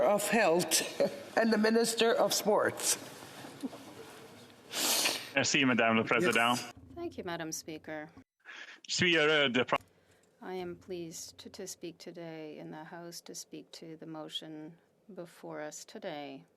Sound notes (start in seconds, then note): 10.7 speaking French